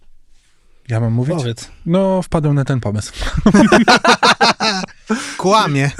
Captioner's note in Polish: śmiech